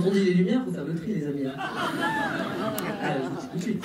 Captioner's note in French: rires